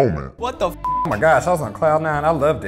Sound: beep

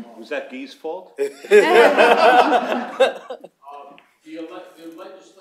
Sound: laughter

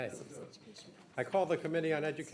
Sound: chattering

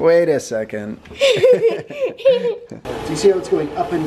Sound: laughing

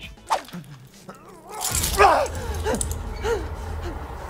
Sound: man gasping

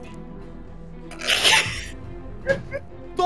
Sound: laughs

